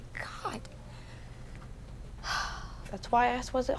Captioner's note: sighs